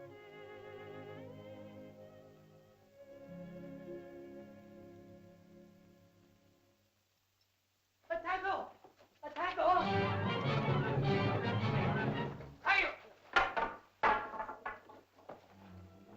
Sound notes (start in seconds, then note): 0.0 sentimental music; 8.1 man shouts "food" in caveman language; 9.8 suspenseful music; 12.5 Tumak shouts; 14.0 staffs clatter to ground; 15.6 tense music